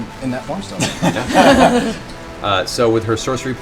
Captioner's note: laughter